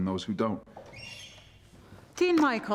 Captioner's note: door creaking